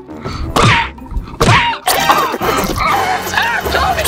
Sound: yelling

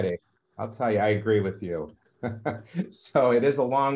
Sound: chuckles

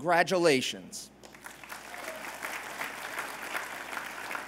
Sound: applause

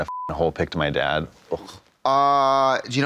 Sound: Katya scoffs

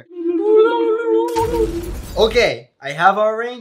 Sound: glass shattering

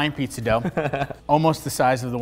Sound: laughs

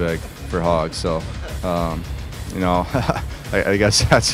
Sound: chuckles

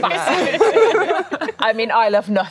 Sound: laughing

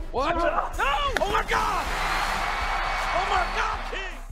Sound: water splashes

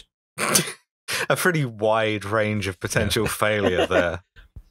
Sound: laughter

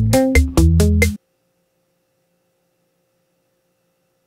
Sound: music stops

